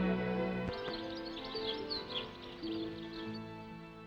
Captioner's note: birds chirping